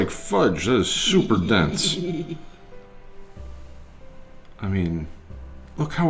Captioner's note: laughing